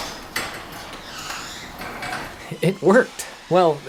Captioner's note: garage door opening